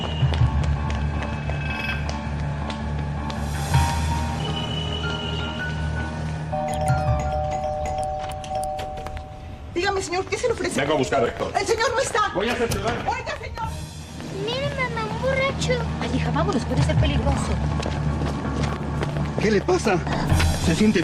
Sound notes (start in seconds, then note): 6.5 doorbell